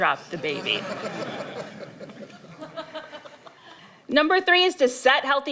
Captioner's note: laughter